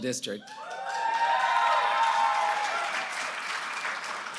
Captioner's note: applause